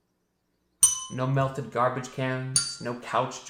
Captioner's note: bell dings; bell dings